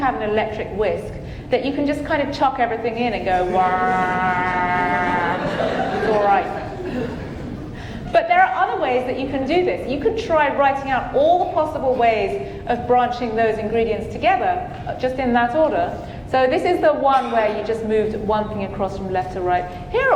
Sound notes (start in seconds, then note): 3.5 audience laughing; 4.0 whirring